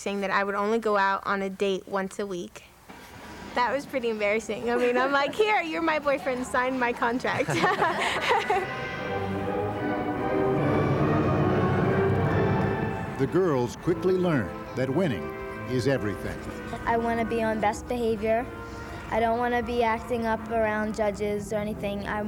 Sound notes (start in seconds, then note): 7.6 laughs; 9.4 classical music plays